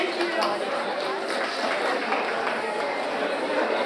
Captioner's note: audience applauds